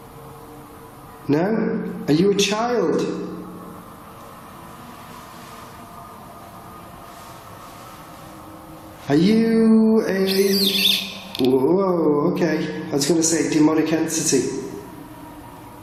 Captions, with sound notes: No? Are you a child? Are you a... (metre beeping) Whoa, okay. I was gonna say demonic entity.